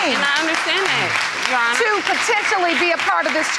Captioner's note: audience applauding